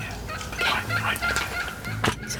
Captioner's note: whispering